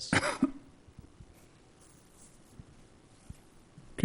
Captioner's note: coughing